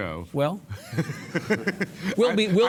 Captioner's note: all laugh